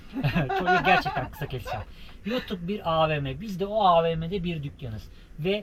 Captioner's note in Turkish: kahkaha